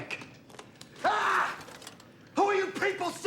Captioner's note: screaming